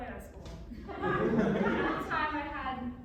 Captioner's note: audience laughs